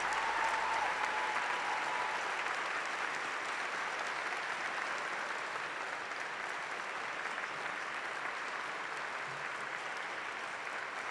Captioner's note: applause